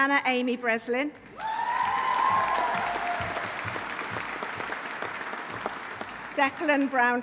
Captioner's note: audience applauding; audience cheering